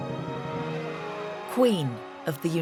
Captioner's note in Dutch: publiek juicht